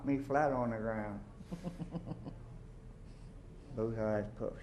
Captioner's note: chuckles